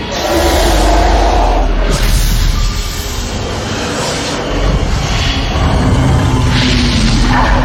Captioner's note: growling and more scary noises